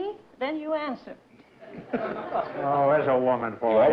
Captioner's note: laughter